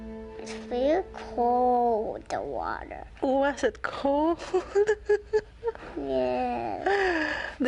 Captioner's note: laughs